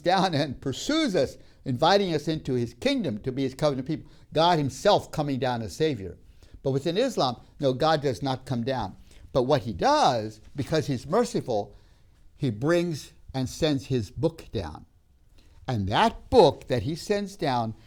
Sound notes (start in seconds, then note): none